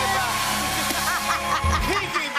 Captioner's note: cheers and applause